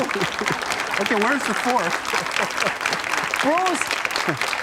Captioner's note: clapping; laughs